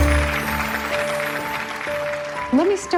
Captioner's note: audience clapping